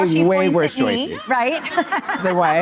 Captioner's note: laughing